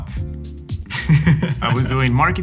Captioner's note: laughs